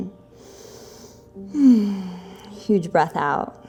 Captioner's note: deep breathing